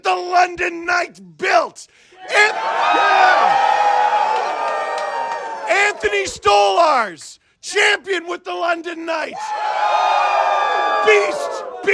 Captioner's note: crowd cheers